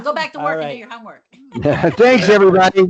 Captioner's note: laughs